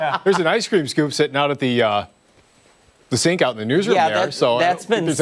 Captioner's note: laughter